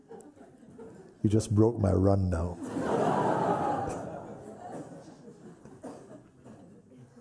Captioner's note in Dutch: gelach